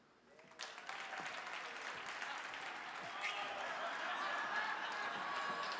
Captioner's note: audience clapping and cheering